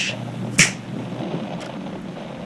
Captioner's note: snap fx